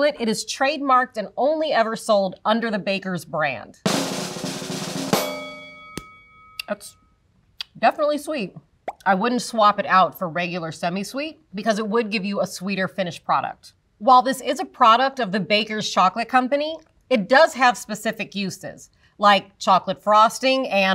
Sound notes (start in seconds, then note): 3.8 drum roll; 5.1 bell dings